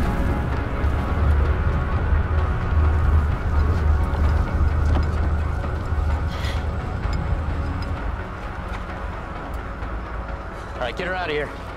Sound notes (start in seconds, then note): 7.2 rumbling fades